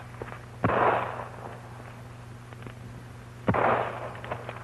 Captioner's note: gunshots